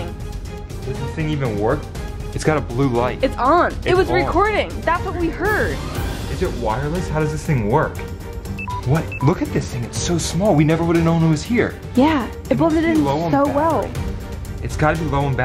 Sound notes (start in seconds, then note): 8.5 beeping noise